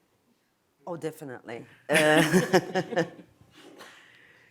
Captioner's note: chuckles